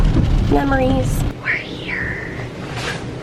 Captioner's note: whispering